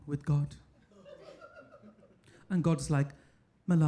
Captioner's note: audience laughing